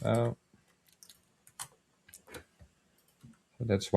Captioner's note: keyboard clicking